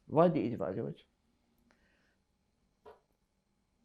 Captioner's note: pauses 8 seconds